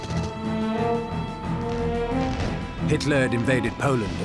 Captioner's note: rapid gunfire